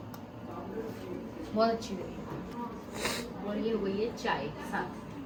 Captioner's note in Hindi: नाक से की जाने वाली आवाज़